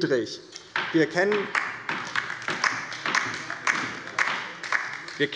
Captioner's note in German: Beifall bei der LINKEN